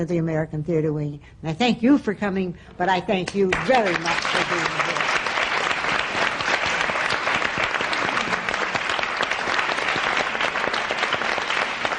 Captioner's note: applause